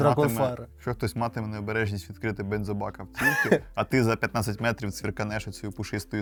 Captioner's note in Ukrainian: сміх